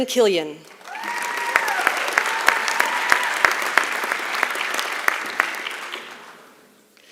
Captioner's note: applause